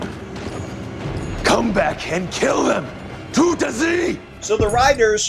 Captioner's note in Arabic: يتحدث الألمانية